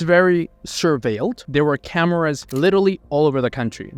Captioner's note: camera clicking